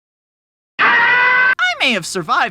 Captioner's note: scream